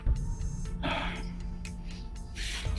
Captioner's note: sighs